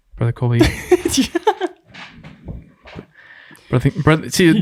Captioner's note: innocent laughing